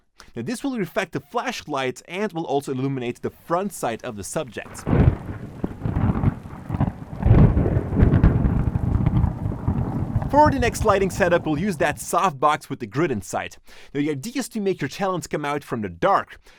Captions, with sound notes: This will reflect the flash light and will also illuminate the front side of the subject. [Thunder sounds] For the next lighting setup we'll use that soft-box with the grid inside. Now, the idea is to make your talent come out from the dark.